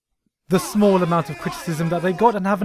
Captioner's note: arguing in the background